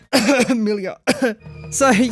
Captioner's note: cough